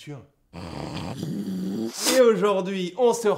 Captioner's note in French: Raclements de gorge et de nez